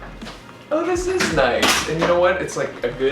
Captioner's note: door banging